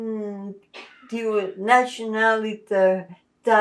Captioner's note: non-english